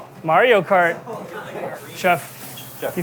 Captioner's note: chefs chattering; water trickling